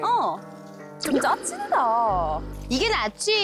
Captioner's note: scoffing sound effect